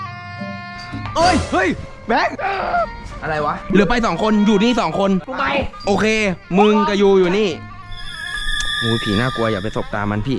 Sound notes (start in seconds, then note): 0.0 traditional music playing; 2.4 screams